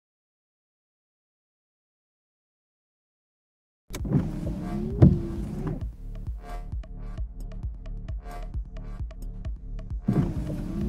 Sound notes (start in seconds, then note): 3.9 windshield wipers running; 6.6 serious electronic music